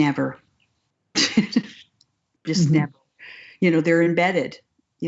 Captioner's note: laughs